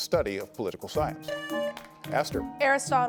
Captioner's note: buzzer buzzing